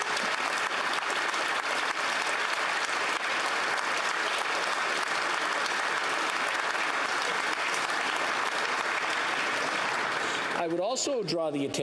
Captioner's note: applause